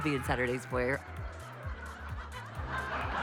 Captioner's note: laughs